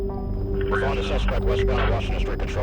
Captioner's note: officer On Radio